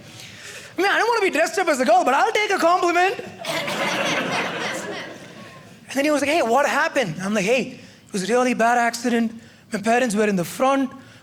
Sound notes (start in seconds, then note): 3.3 audience laughing